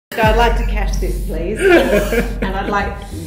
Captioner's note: laughter